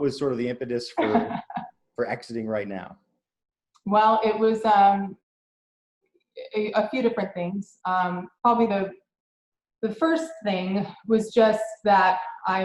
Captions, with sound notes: (laughs) What was sort of the impetus for exiting right now? - Well, it was a few different things. Probably the first thing was just that,